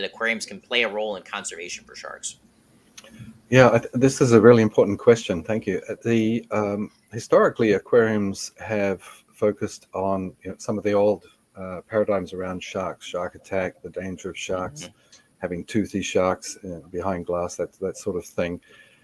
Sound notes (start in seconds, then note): none